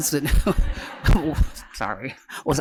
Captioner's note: laughter